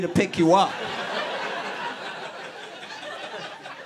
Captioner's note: laughter